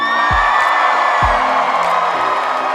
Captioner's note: audience chanting; uplifting music